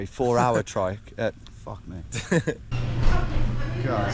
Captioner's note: chuckles